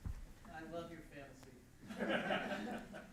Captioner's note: chuckles